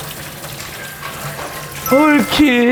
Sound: ding dong~

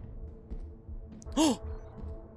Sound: gasp

